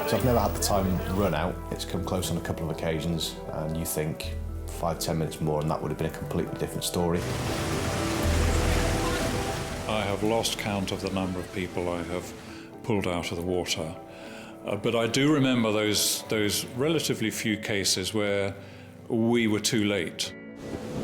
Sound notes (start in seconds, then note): 7.2 waves roaring; 7.4 gentle music; 20.6 waves roaring